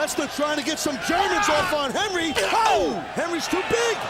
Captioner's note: commentators exclaiming